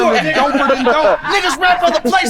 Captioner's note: chatter